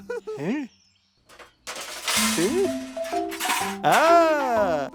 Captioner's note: laughs; metal clanking